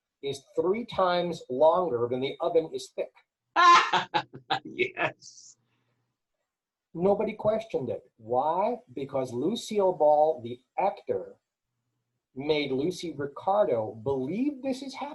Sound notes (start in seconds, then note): 3.6 laugh